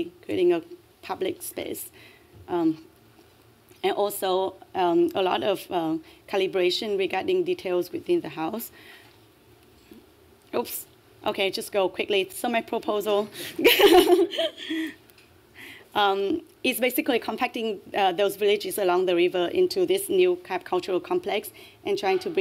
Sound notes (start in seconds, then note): 13.6 laughter